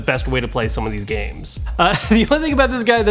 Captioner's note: laughs